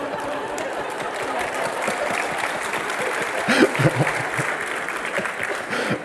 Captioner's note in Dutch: applaus